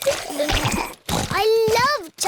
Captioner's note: giggling